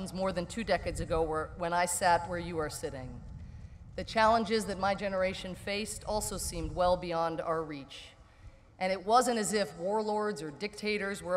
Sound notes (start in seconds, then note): none